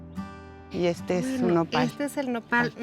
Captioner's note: speaking Spanish